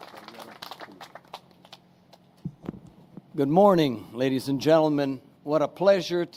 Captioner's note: applause